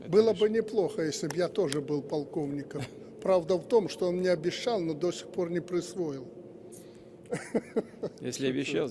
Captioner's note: laughter